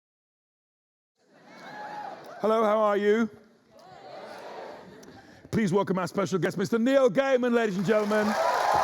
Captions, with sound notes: — LENNY: Hello, how are you? — (AUDIENCE WHOOPS) Please welcome our special guest, Mr Neil Gaiman, ladies and gentlemen!